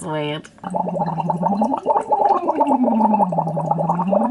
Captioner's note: bubbles